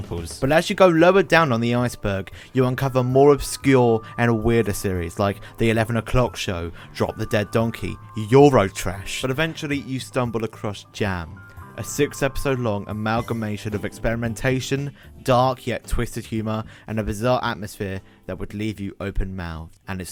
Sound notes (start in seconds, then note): none